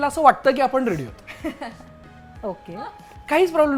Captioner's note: chuckles